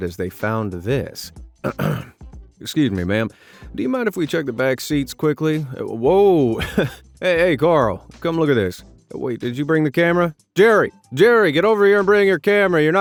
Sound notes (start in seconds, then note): 1.6 clears throat; 6.5 laughs